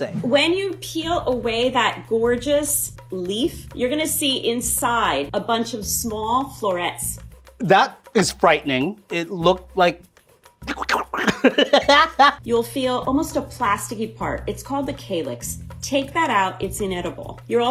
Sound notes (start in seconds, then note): 10.6 laughing; 10.8 squealing